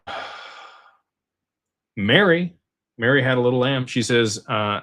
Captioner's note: sighs